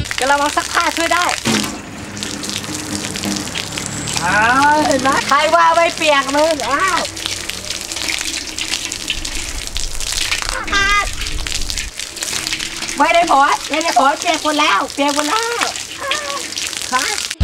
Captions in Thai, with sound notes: กะละมังซักผ้าช่วยได้ ( เสียงฝน ) ไม่ได้ผล ๆๆ เปียกหมดแล้ว